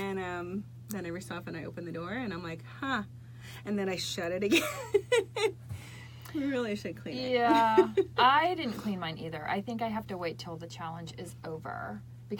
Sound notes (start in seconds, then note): 4.5 chuckling